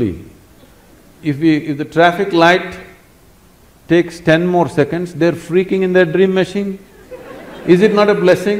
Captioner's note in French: Rires